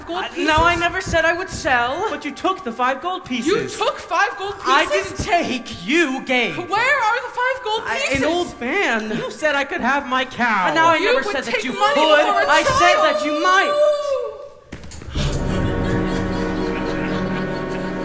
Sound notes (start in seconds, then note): 12.2 mooooo!